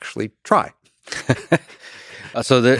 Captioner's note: Lex and Robin laugh